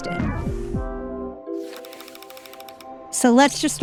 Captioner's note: bright music; reel clicking